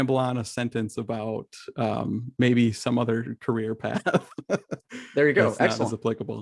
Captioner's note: laughs